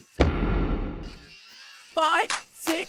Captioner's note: cranking